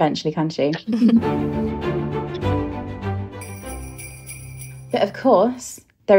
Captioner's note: theme music; bell ringing